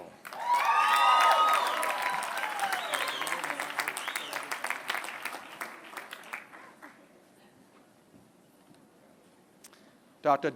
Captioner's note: applause